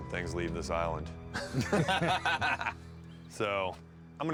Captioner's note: laughter